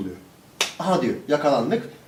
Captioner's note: slap